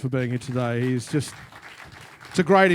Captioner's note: applause